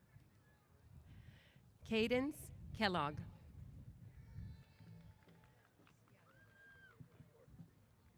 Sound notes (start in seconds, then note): 3.7 applause & Cheers